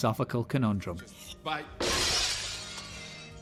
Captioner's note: glass smashing